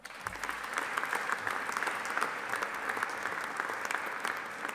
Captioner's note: audience applauding